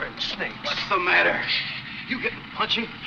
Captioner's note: shushing